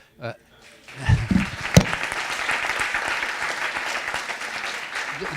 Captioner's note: audience applauding